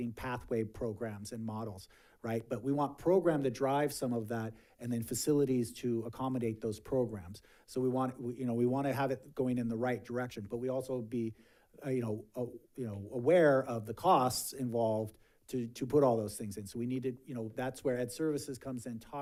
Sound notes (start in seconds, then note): none